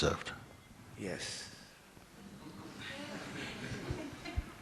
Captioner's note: laughter